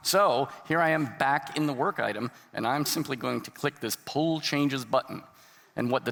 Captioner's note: none